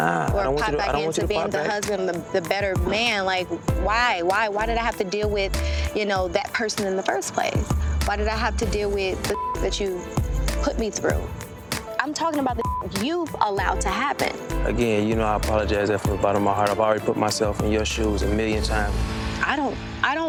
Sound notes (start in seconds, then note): 9.3 beep; 12.5 beep